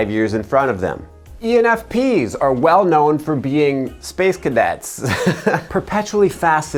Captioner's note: laughs